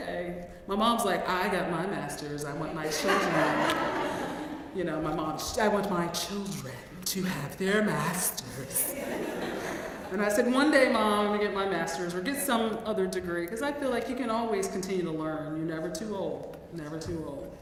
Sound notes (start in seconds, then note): 2.9 laugh